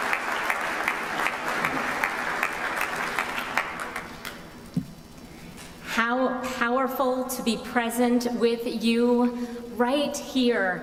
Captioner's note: applause